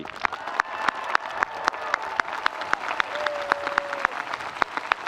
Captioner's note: audience applauding